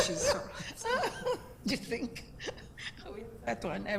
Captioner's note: both laugh